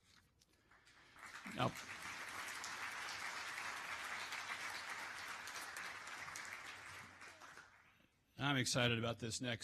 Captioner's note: applause